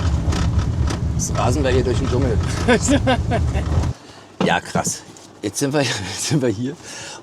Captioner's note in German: gelächter